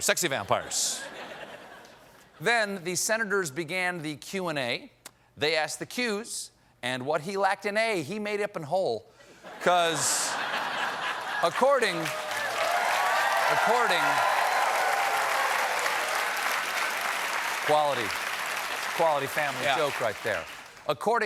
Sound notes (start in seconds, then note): 9.4 laughter; 13.7 cheers and applause